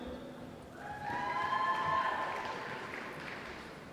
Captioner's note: applause